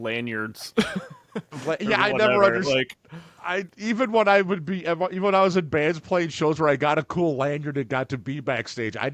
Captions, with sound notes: lanyards. (laughs) - Yeah, I never-- - Or whatever, like-- - Even when I was at band's plate shows where I got a cool lanyard it got to be backstage.